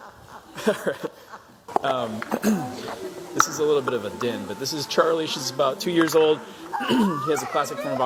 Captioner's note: laughter